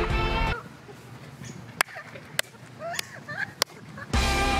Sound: laughs

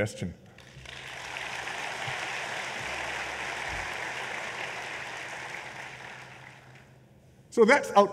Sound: applause

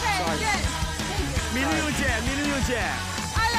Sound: in Czech

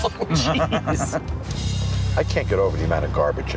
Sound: laughing

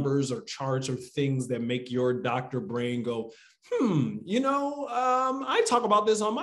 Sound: hums

